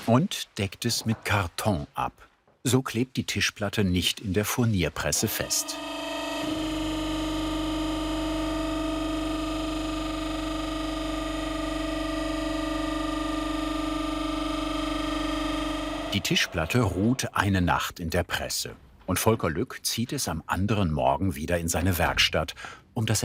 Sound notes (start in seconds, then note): 6.5 machine whirring